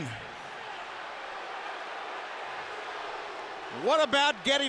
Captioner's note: audience cheering